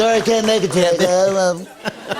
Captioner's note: laughter